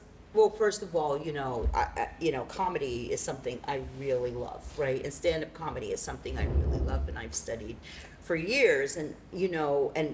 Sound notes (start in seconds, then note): none